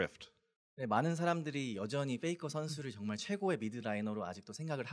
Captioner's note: speaking korean